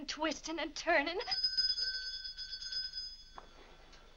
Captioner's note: bell rings